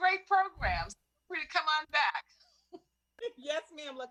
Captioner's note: laughter